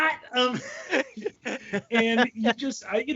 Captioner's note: all laughing